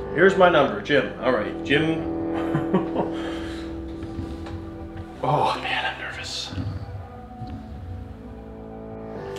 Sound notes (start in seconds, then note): 2.3 laughs